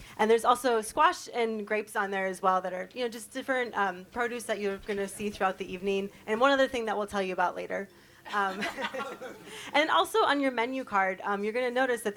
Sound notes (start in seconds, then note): 8.3 chuckle